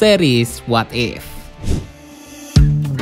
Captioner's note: transition sound; opening music